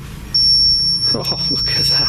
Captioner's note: beeping